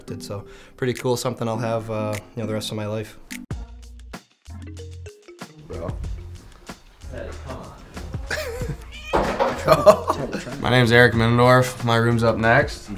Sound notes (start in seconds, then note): 3.4 soft music; 9.4 laughter